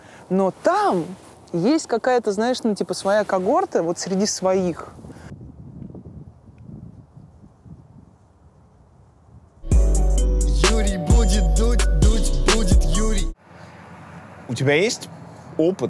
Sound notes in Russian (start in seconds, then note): 4.4 шум ветра; 9.6 музыкальная заставка